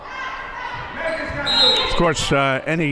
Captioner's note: whistle blows